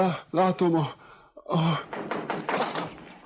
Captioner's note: knocking